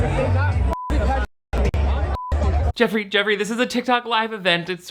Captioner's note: beep